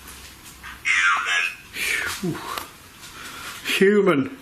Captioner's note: Voice on Ovilus